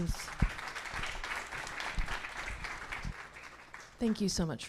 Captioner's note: audience applauding